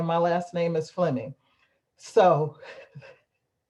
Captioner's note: laughter